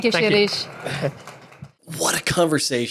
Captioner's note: audience clapping and cheering